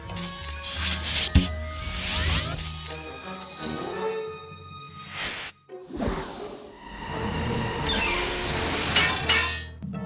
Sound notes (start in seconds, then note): 0.7 suction hissing; 8.8 metal clinks